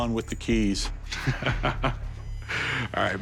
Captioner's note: laughs, inhales